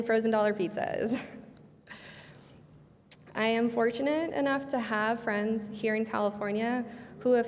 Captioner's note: laughing